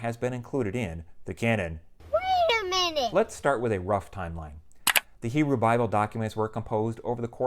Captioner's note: mouse click